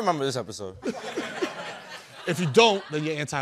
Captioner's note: laughter